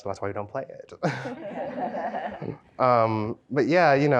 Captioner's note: participants laugh